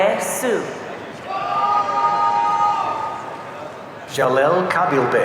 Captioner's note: audience cheering